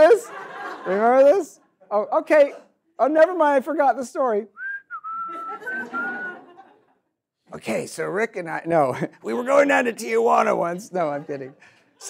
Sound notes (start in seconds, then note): 0.0 audience laughs; 4.5 whistles; 5.2 audience laughs